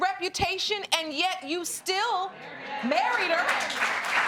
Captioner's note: audience applauding